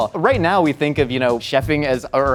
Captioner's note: none